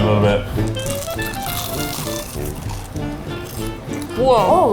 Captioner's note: whimsical music; corn dogs crunching